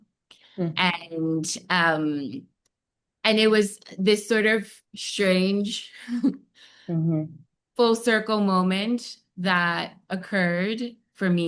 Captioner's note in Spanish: risas